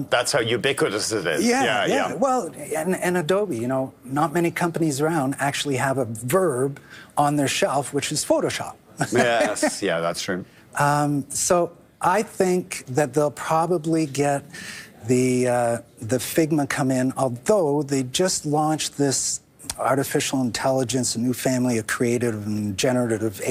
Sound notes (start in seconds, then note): 3.2 chuckling